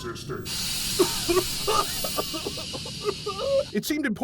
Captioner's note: heavy coughing